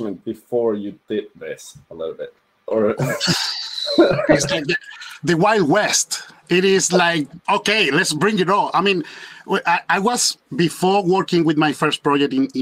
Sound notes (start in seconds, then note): 2.9 laughs; 3.0 hisses